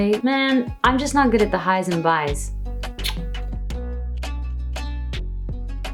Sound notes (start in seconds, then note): 2.9 kiss; 4.4 sensual upbeat music